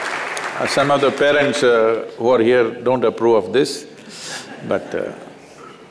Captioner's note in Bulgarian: аплодисменти; смях в публиката